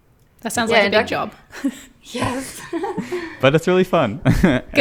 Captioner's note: laughs